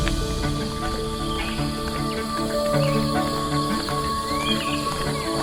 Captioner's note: birds chirping